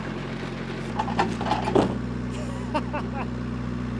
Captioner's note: engine idling